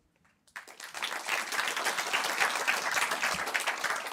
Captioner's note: applause